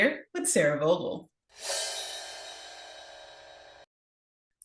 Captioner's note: transition clanging